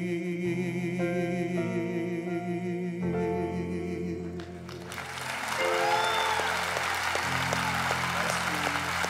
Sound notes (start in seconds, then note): 4.6 applause